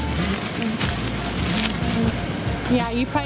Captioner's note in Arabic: طنين